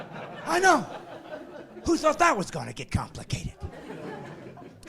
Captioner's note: laughing